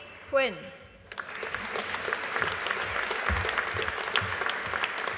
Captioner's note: audience applauding